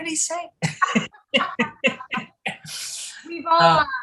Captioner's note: laughter